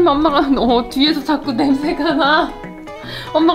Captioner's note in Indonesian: tertawa